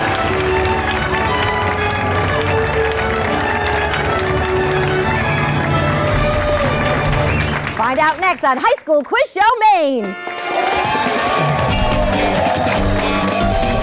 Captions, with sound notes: Find out next on High School Quiz Show Maine! (applause) (funky music)